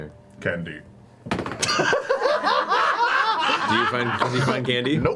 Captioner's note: all laugh